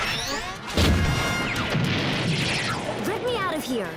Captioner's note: loud explosions